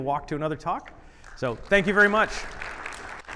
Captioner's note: audience applauding